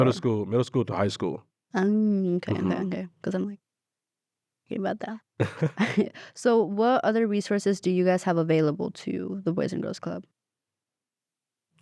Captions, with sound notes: - Middle school to high school. - Okay, okay. Because I'm like, okay, about that. (both laugh) So what other resources do you guys have available to the Boys and Girls Club?